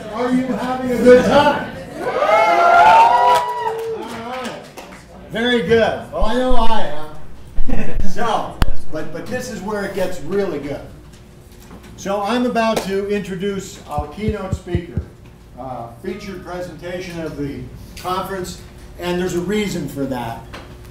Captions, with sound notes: Are you having a good time? (Audience cheering and clapping) Yeah! Alright. Very good. Well I know I am. So, but this is where it gets really good. So I'm about to introduce our key note speaker. Our feature presentation of the conference and there's a reason for that.